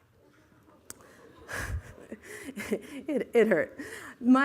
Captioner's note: laughter